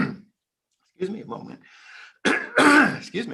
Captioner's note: clearing throat